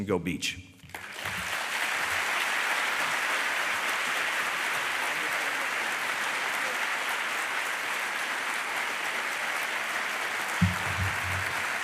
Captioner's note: applause